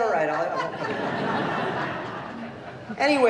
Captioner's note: laughter